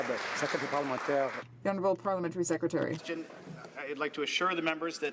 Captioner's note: some Applause